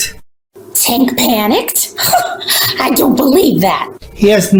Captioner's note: scoffs